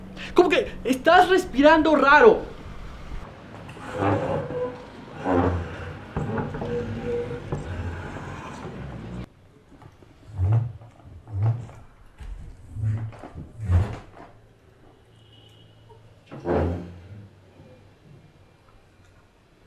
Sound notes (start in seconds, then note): 5.2 neighbour moving things